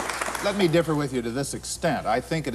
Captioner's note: applause